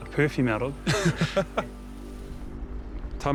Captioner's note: both laugh